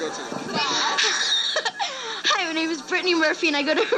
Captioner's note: iconic Brittany Murphy giggle